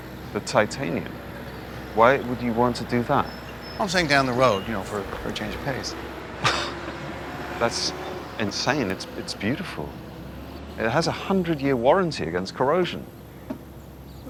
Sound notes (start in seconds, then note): 7.1 scoffs